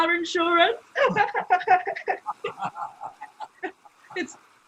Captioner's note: laughter